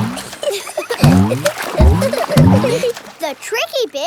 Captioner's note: giggling